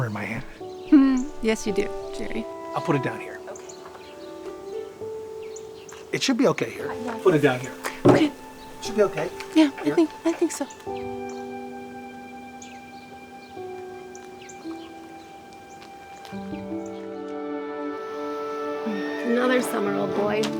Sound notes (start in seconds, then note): 11.4 birds chirping; 11.4 soft music